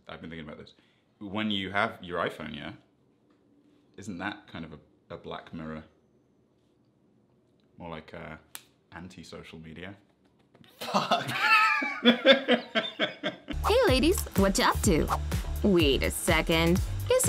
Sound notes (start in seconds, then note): 10.8 laughs